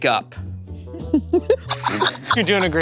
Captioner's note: laughing